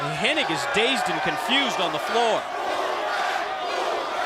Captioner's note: crowd chatter